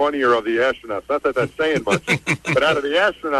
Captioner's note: laughter